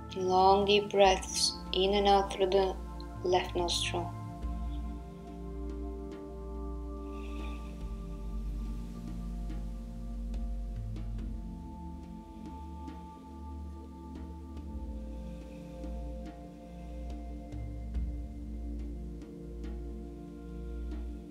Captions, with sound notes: Long deep breathes in and out through the left nostril. (Breathing slowly) (calming music)